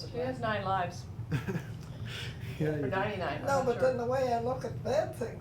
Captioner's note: chuckling